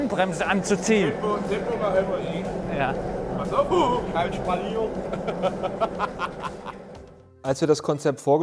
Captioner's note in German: lachen